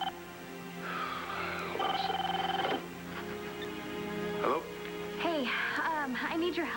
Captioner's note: phone rings